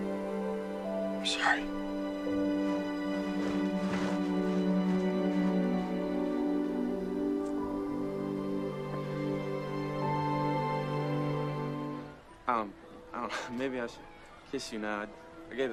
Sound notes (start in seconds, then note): 12.2 gentle music; 12.2 group chattering